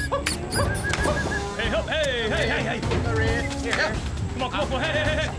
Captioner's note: cattle mooing